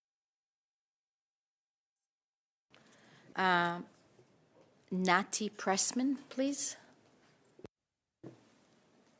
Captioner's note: speaking French